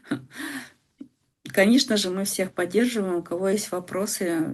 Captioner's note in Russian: смех; тяжело вздыхает